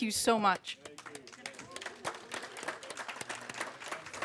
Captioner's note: applause